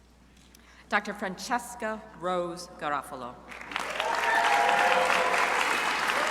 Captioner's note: crowd applauding